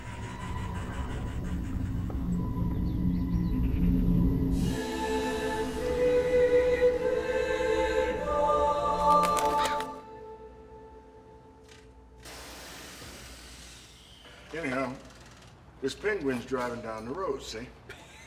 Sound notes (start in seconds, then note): 0.2 ominous music playing; 12.8 mechanical whirring; 17.9 laughs